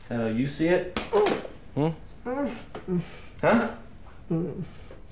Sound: muffled whimpers; pained groan

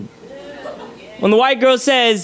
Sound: audience laughs

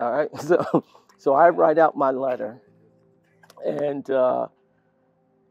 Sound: laugh

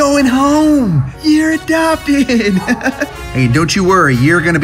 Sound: chuckles

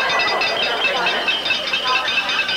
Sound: glasses clinking

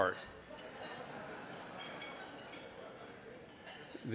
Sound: audience laughing

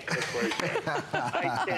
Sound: laughter

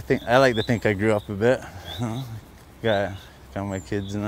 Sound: laughter

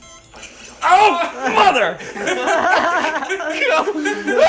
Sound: screams; laughs

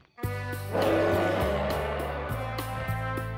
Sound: roaring

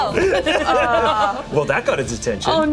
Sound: group giggle

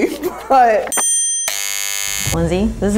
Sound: bell chiming

